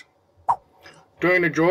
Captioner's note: swipe Sound